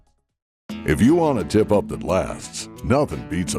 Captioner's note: voiceover